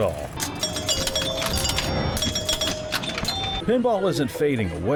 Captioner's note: pinball chiming